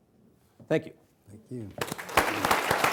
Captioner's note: clapping